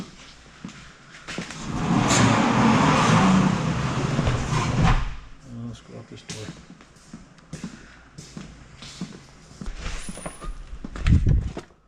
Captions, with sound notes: (metal door scraping) Let's go out this door. (footsteps thumping)